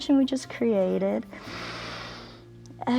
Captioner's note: exhales; inhales